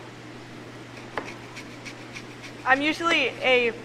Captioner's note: zester grating